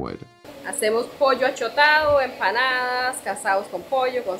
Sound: speaking in Spanish

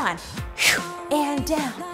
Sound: exhaling

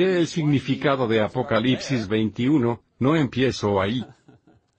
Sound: laughs

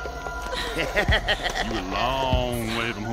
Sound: chuckling

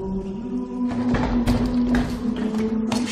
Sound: trapdoor creaks open

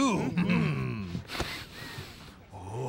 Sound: sniffs

